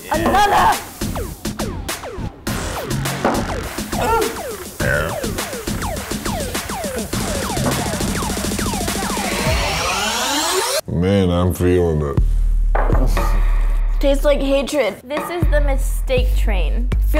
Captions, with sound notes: - Another! - Ooh! (burping) (energetic music) - Man, I'm feelin it. - Tastes like hatred. This is the mistake train.